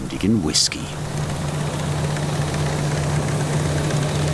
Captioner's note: rattling noises